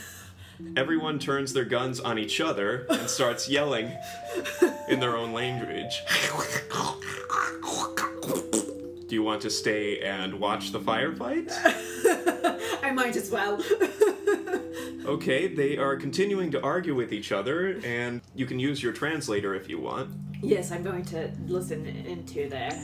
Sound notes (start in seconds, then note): 6.0 thppp; 6.2 Trandoshans yelling